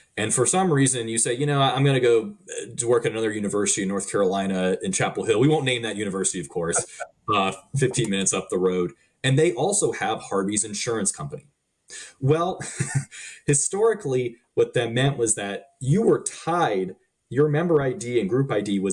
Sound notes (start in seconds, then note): 7.3 laughing; 12.0 laughing